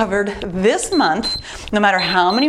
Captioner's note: timer beeps